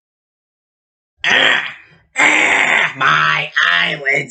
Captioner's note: Zorak grunts